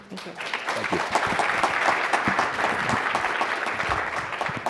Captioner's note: audience applauds